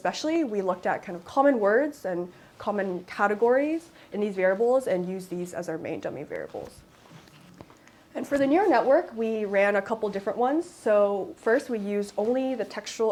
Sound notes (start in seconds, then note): none